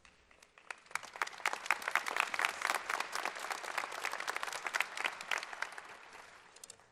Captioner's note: applause